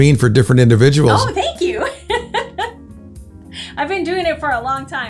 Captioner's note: laughs loudly